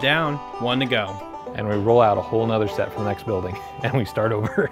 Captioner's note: laughing